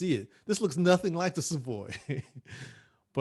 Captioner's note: laughs